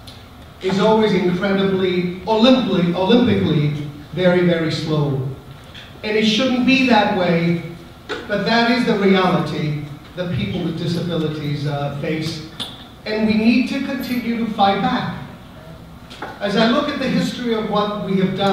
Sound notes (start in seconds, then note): none